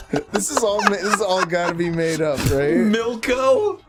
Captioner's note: laughs